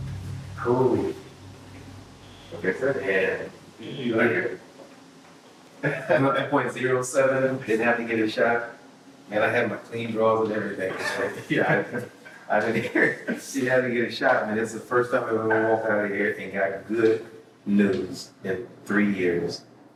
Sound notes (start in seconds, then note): 10.2 laughing